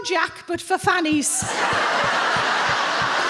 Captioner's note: audience laughs; foot stomping